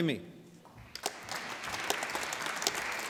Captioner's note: applause